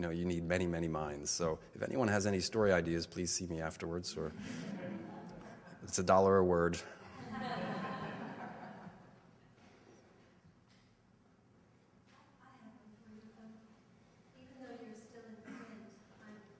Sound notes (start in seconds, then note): 4.2 audience laughter; 12.4 audience asking a question; 12.4 voiceover